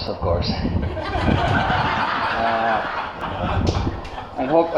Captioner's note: laughter